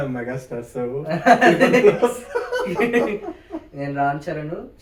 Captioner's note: laughs